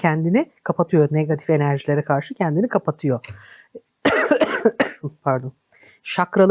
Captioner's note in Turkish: öksürme